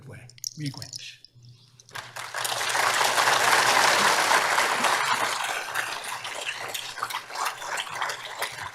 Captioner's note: applause